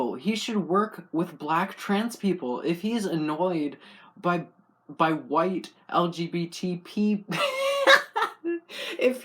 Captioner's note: laugh